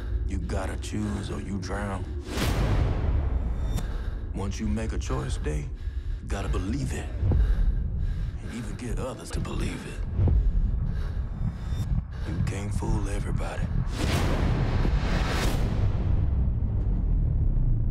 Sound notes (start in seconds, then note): 2.2 dramatic slam; 13.8 dramatic slam